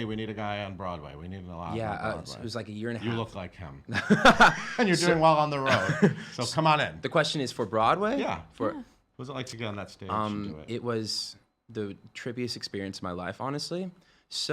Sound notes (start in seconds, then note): 5.6 laughing